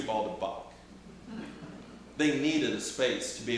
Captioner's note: audience chuckling